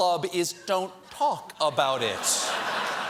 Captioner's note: laughter